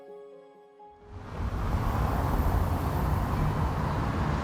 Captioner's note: cars humming